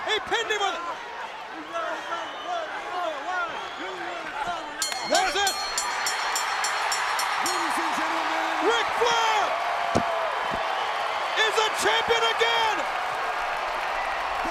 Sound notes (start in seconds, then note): 4.8 bell ringing; 6.7 crowd cheering